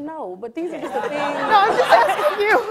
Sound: audience laughs

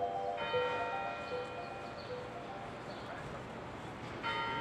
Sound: bell ringing

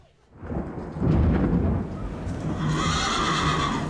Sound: thunder crashing; horse whinnying

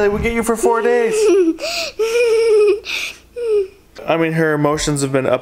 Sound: laughing

